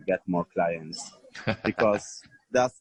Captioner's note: chuckle